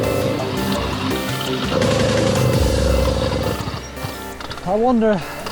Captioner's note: motor sputters off